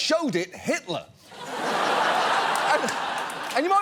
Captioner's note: studio audience laughs